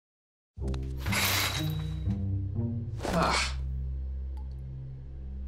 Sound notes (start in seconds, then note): 1.0 shower curtain opening; 3.0 grunts